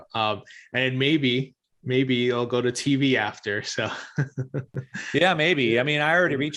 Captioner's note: chuckles